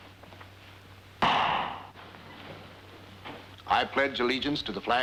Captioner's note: gavel thuds